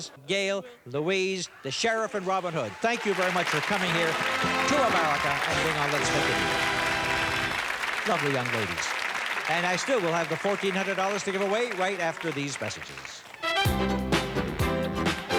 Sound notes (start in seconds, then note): 6.6 cheers and applause; 6.6 theme music playing; 13.4 theme music playing